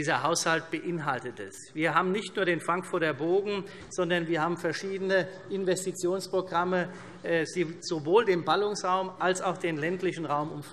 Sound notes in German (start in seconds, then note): none